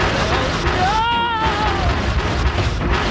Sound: yells

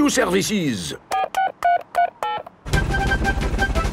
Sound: dialing

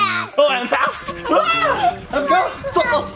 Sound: screams

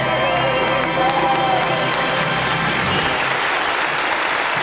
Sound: audience cheering

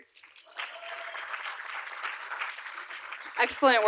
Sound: audience applauding

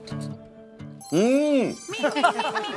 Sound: exclaiming

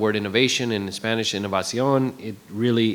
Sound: speaking in foreign language

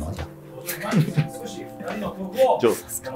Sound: laughing

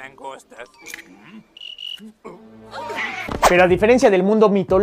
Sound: screams

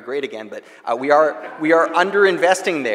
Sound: audience laughing

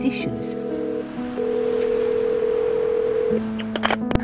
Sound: phone rings

